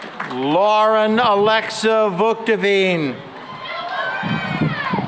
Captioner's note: cheering and applause